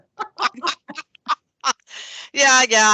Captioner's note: people laughing